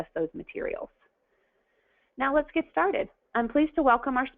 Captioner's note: pause